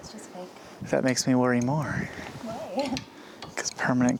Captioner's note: laughs